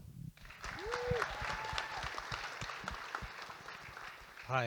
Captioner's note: audience applauding